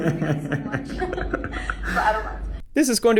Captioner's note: laughs